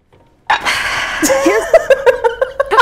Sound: sighing; laughing

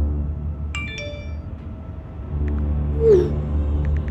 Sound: text alert

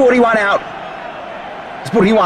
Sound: crowd cheers

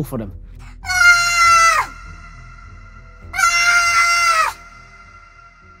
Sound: high-pitched screaming

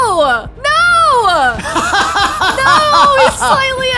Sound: laughing

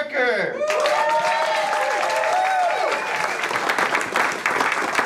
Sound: attendees cheer and applaud

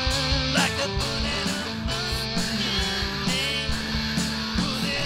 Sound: growling

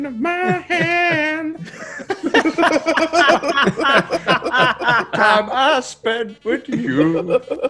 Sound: laugh

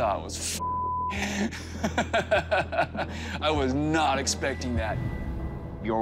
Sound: laughs

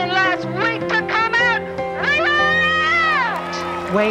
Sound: cheers and applause

